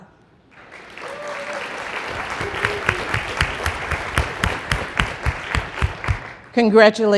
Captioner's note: applause